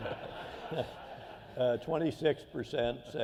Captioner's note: laughter